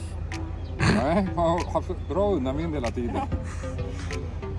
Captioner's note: laughter